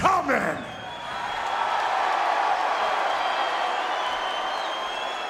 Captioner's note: audience cheering